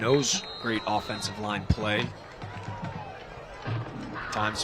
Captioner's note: applause